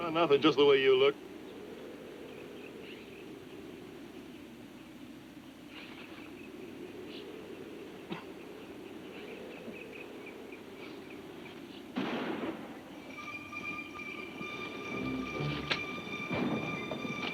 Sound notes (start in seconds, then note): 11.9 gun bangs; 12.9 tense music